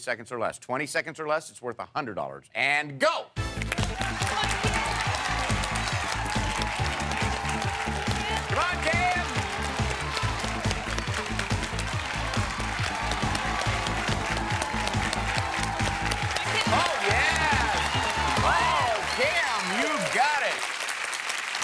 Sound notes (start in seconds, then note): 3.4 audience cheering; 3.4 upbeat game show music